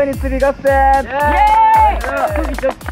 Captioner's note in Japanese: 拍手